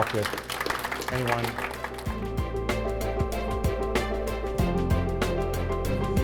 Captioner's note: applause, music playing